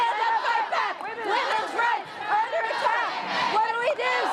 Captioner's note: unison chant